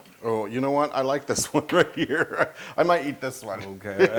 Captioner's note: laugh; laugh